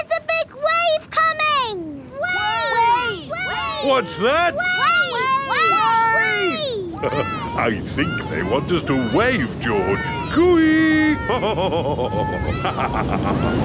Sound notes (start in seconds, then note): 11.0 laughs